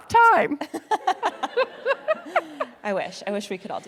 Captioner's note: laughing